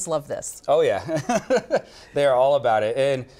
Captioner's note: laughs